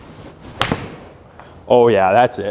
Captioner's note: ball smacking